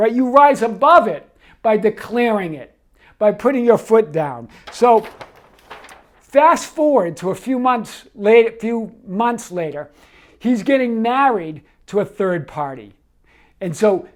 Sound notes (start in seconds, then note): 4.5 paper rustles